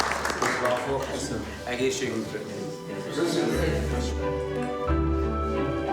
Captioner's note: speaking in foreign language; serene music continues